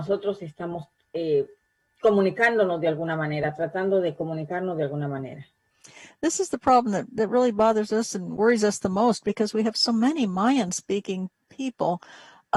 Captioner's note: spanish